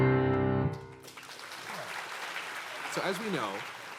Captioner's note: audience applauding